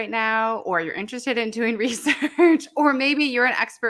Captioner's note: laughs